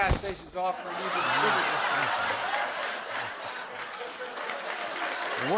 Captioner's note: laughter